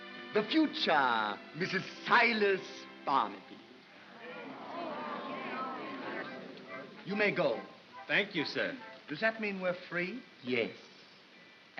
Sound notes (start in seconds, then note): 3.8 crowd murmurs